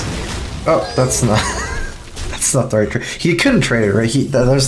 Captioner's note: laughs